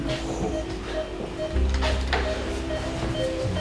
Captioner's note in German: Piepen